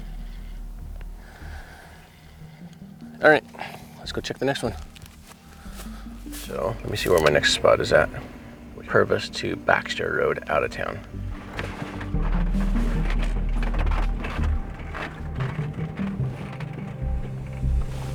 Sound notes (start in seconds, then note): 0.2 suspenseful music continues; 11.7 suspenseful music continues; 11.7 vehicle rattling